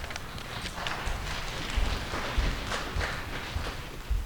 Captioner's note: audience applauding